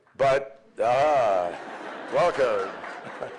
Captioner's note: applause